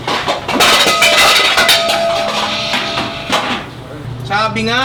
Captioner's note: equipment clanging